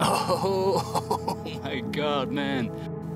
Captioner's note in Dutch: lacht